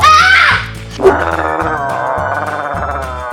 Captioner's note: screams; growls